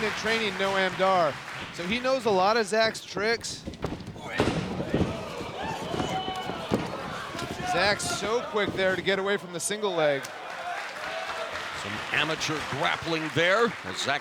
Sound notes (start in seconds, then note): 4.5 crowd exclaiming; 4.5 wrestlers thudding